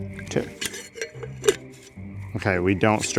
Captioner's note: cap clicks